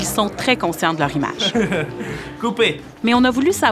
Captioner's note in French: rire